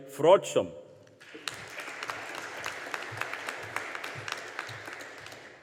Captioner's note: audience applauding